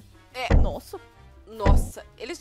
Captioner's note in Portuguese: Batidas na porta